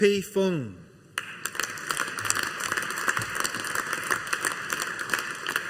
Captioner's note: audience applauding